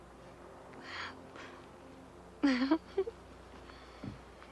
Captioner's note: Mandy giggles